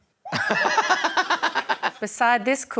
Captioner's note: laughs